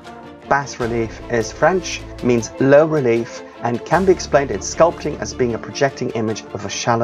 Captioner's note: French